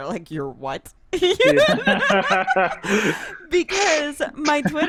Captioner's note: laughs